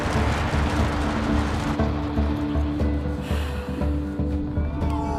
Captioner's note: exhales; cheers